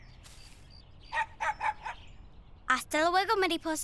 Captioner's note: champion barking